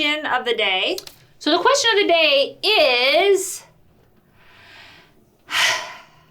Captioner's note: sighs